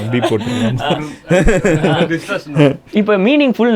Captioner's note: group laughs